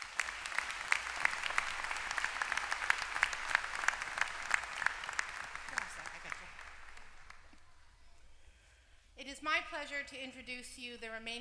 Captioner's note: applause